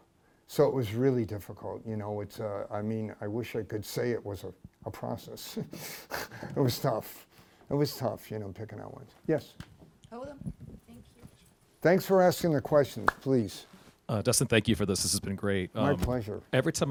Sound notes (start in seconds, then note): 5.5 laughs